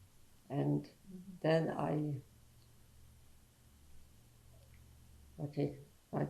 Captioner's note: pauses for 3 seconds